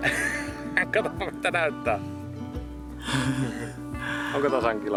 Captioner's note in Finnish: naurua